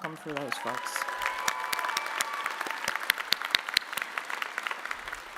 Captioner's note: audience applauding